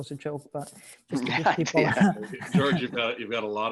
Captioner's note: laughs lightly